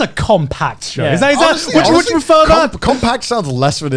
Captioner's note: both mumbling